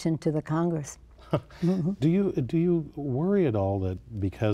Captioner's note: laughter